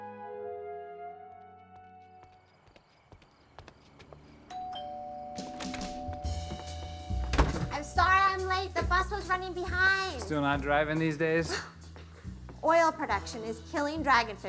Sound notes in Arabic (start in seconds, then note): 2.2 صراصير الليل تغرد; 4.5 رنين جرس الباب; 5.9 موسيقى جاز مبهجة